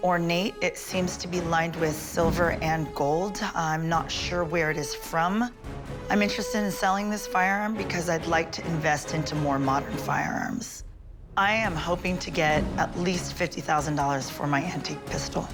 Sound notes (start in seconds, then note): none